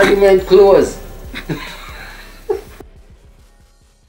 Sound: laughs

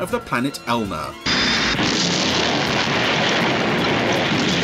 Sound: loud explosion

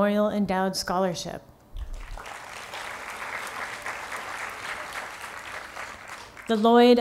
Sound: applause

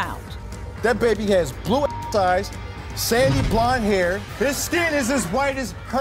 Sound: beep

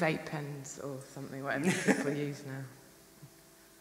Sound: laughs

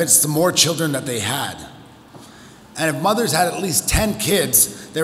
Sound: none

